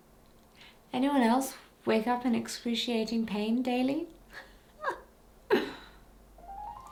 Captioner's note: chuckling